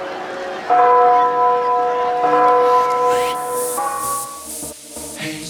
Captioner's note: bell chiming; upbeat music